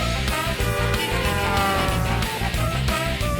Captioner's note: honking